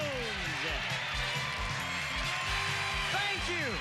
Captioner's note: cheers and applause